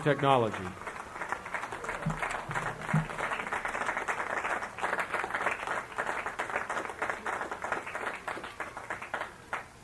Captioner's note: applause